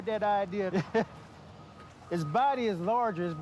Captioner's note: chuckling